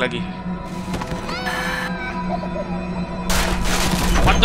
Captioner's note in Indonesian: tangis bayi